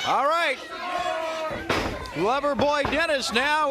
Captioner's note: crowd cheering